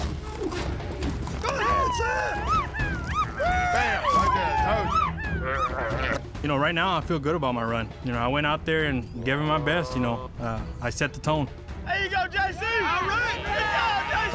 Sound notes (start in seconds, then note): 0.0 rope swinging; 1.9 cheering